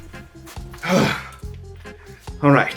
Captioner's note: exasperated Sigh